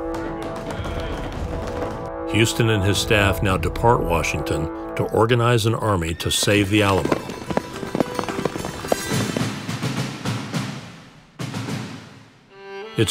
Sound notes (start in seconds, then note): 0.0 men clapping; 7.5 hooves thudding; 9.3 light dramatic music